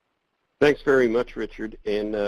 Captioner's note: voiceover